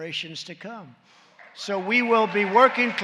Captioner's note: applause